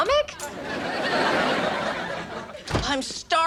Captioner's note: audience laughs